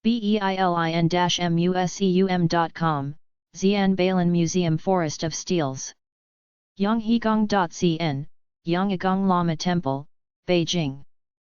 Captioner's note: German